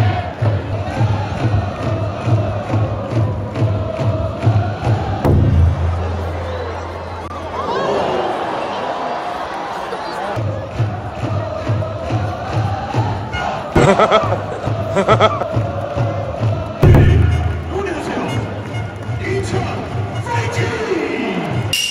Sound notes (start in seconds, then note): 16.4 laughs